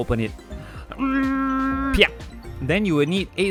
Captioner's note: brute force sounds